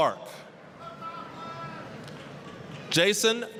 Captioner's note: applause